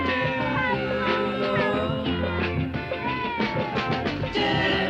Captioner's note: cheering